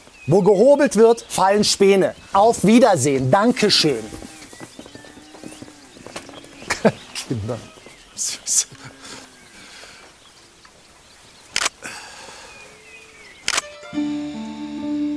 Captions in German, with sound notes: Wo gehobelt wird, fallen Späne. Auf Wiedersehen, danke schön! (Er lacht.) Kinder. (Kameraklicken) (Traurige Musik)